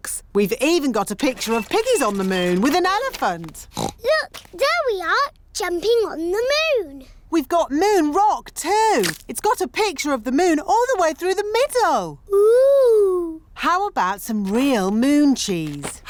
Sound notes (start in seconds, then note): 3.6 oinks